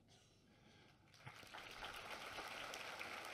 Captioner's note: applause